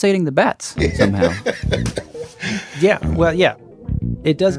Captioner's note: laughs